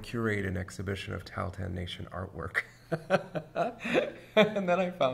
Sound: laughs

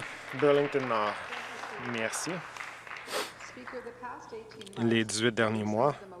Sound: some Applause

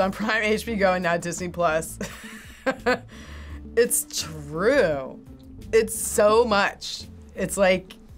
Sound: chuckles

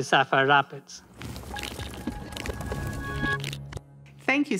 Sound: transition sound effect

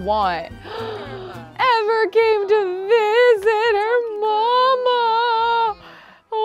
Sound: gasps

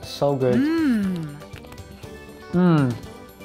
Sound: recording of woman mming

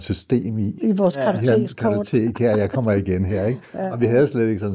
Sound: laughs

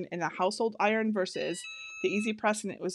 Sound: EasyPress beeping

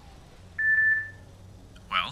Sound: console beeping

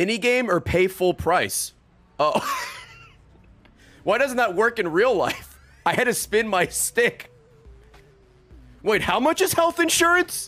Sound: laughs

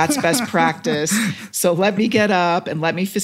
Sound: laugh

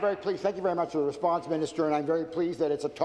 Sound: applause

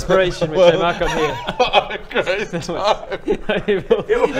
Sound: laughs

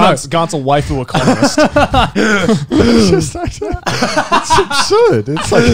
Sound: both laughing

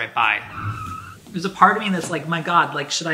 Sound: brakes squeaking

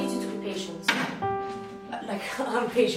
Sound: keys slam on table

